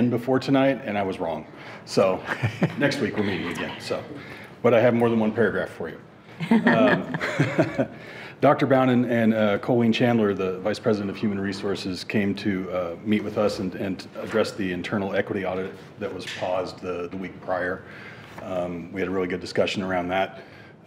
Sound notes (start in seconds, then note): 6.4 chuckles; 6.4 chuckling